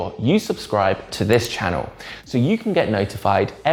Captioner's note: mouse clicks